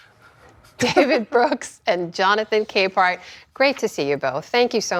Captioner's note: laughter